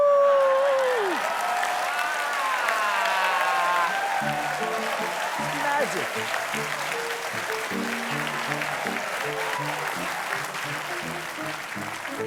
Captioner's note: cheers and applause